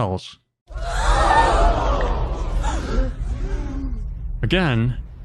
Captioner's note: crowd gasping sound effect